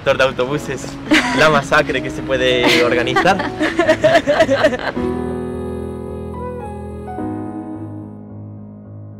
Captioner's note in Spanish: risas